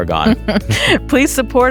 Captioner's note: chuckles